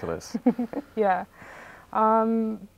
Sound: laughs

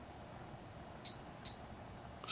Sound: beeps

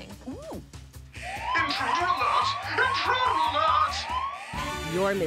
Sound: siren wails

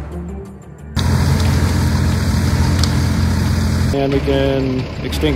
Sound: engine idling

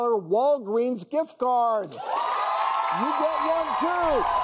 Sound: audience applauding

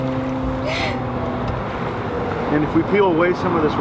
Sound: sobbing

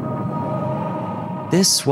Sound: people vocalizing

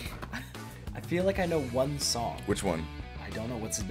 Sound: laugh

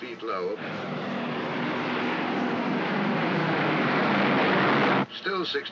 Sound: aircraft roars overhead

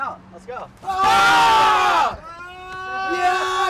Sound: groaning

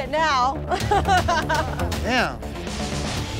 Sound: laughing

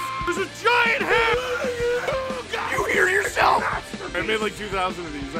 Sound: Harry potter screaming; screaming

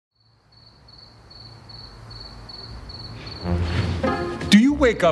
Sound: crickets chirping

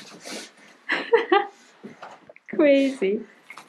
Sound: laughing

